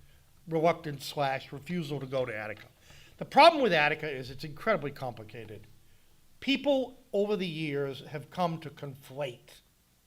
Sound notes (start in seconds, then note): none